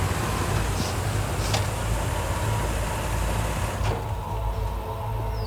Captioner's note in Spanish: Sonido al abrir y cerrar la puerta